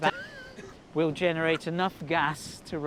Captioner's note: George laughs